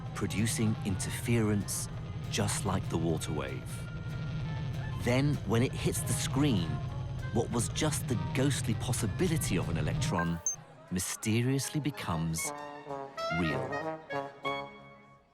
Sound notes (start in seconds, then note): none